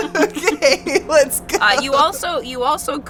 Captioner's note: laughs